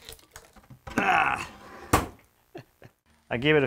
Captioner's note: grunts; chuckles